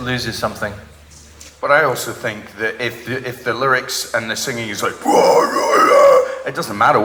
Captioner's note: vocalizes